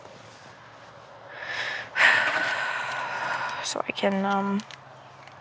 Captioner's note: sighs